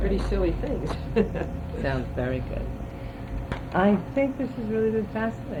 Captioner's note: laughs